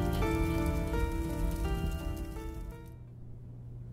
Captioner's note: fire crackling